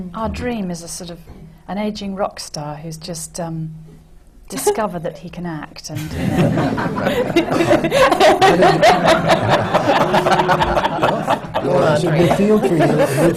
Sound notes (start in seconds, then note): 5.5 laughter